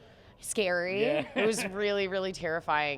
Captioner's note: laughing